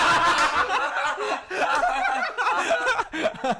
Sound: laughing

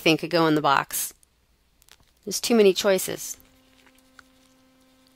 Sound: pause in Lecture

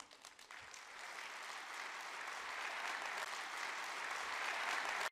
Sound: audience applauds

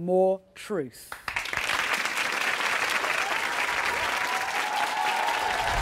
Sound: audience applauds, cheers

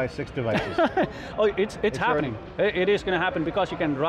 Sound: laughs

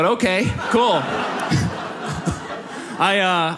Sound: audience laughs

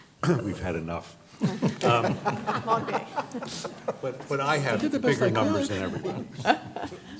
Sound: laughter

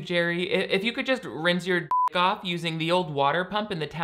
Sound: beep

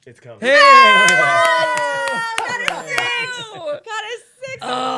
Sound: cheering

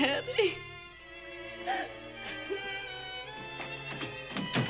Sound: sobbing

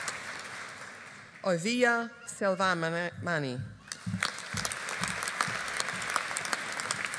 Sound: audience applauding

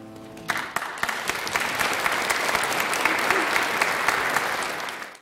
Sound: applause

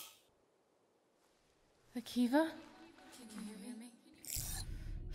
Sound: heavy breathing

